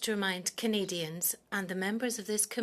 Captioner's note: speaking French